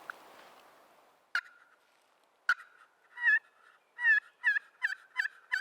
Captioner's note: turkey calling